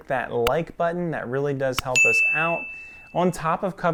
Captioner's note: bell ringing